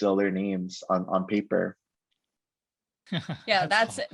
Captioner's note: laughs